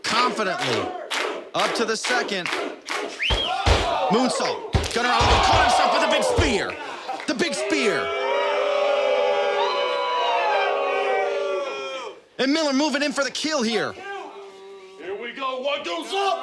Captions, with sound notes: Confidently, up to the second. Moonsault. Gunner out of the corner himself with a big spear. The big spear! (audience boos) And Miller moving in for the kill here.